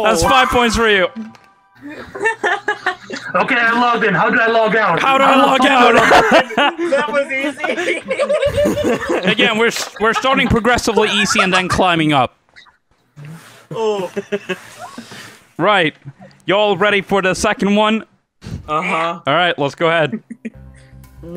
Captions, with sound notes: – That's five points for you. [LAUGHTER] – Okay, I logged in. How do I log out? – How do I log out!? [LAUGHTER] – That was easy! [GROUP LAUGTER] – Again, we're starting progressively easy and then climbing up. – [CHUCKLES] – Right, y'all ready for the second one? – Uhuh. – Alright, let's go ahead.